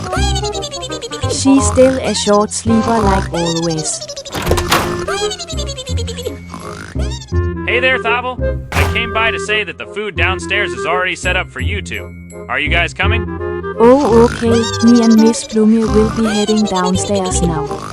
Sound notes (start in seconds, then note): 4.2 door Starts Opening